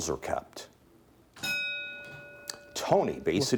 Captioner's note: bell ringing